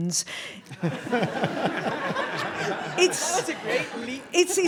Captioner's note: audience laughing